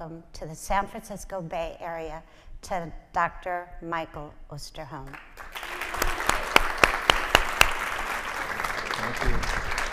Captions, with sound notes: to the San Francisco Bay area to Dr. Michael Osterholm. (audience applauding) - Thank you.